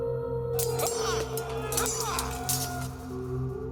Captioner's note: shouting